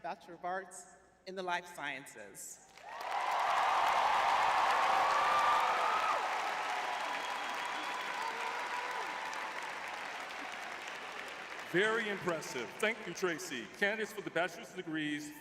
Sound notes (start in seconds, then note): 6.3 cheering